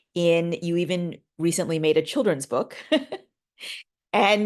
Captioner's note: chuckling